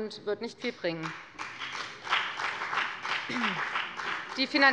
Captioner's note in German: Beifall bei der FDP